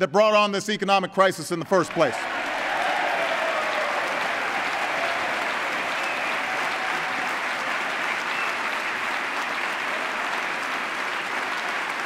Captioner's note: applause